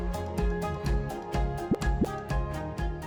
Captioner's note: graphic pops